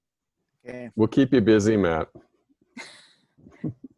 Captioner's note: laughing